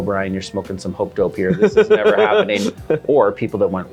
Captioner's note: laughs